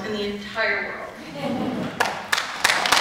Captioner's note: laughter; appluase